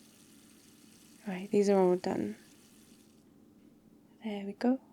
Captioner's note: water tap off